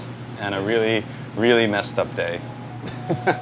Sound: laughs

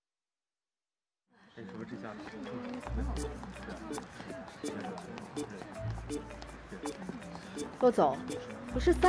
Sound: chatter

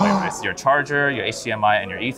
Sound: gasps

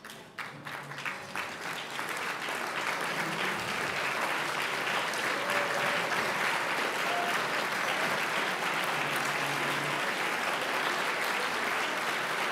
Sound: applause

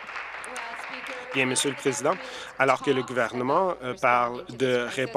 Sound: applause

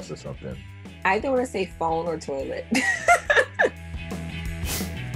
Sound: laughter

